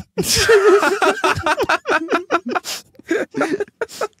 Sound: guests laughing

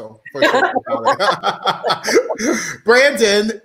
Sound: all laughing

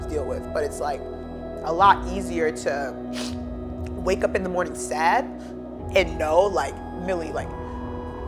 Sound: sniffs

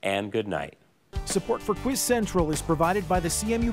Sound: voiceover

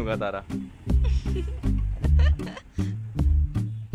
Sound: laughter

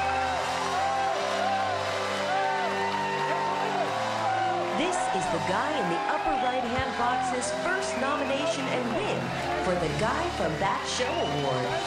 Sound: cheers and applause

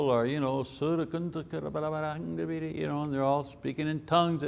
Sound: speaking in tongues

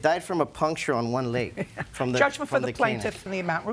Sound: chuckles

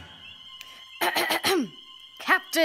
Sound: Puck clears voice

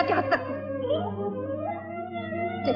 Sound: laughs

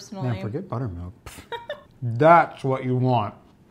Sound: laughs

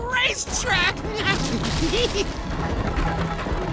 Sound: giggling

